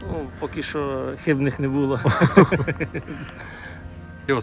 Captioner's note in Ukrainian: сміх